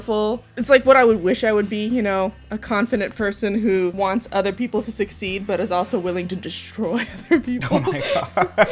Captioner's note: laughs